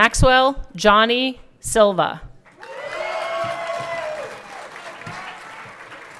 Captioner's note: everyone cheering